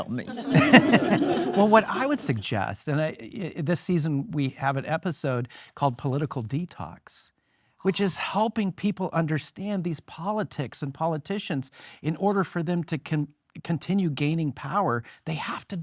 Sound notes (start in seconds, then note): 0.0 laughing; 0.0 audience laughing